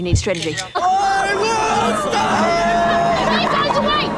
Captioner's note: cameras click, students shout